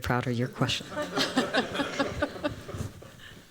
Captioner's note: laughter